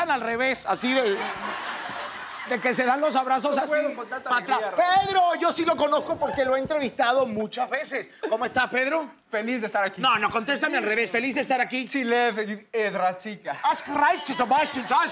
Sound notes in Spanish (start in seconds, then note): 0.9 Risas; 11.0 Habla al revés